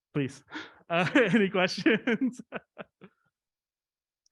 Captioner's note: laughs